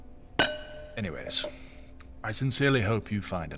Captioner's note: sound of wine pouring